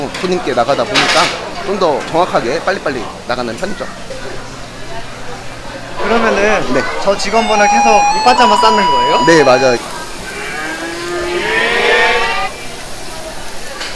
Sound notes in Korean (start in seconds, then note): 10.2 계속 소 소리남